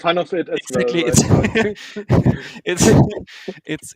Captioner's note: laughing